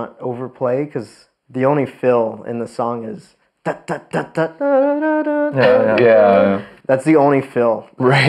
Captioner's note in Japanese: 鼻歌